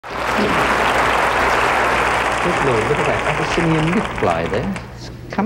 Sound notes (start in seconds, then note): 0.0 audience applauding